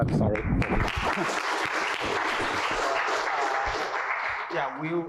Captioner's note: applause